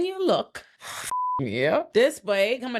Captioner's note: beep